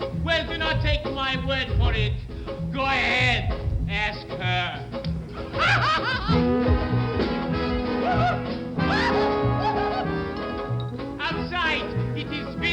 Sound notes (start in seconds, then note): 5.3 laughs